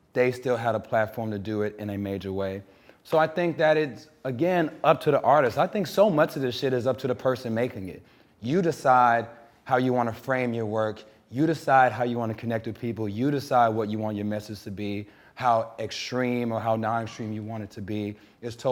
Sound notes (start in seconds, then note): none